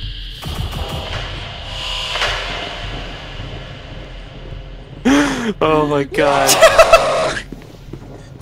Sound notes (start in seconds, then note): 6.4 bed laughing